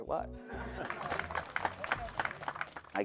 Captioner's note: applause